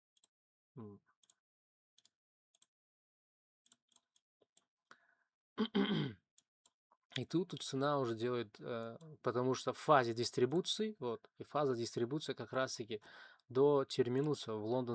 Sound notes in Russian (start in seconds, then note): 5.6 кашель; 5.6 откашливается